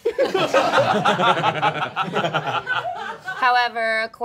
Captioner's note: all laughing